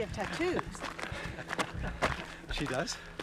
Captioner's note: laughing